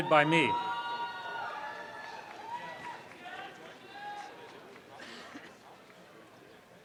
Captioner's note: audience applause